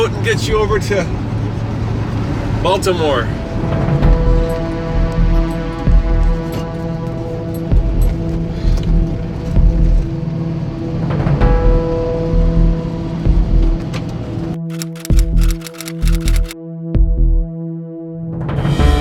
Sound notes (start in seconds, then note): 14.6 typewriter clicking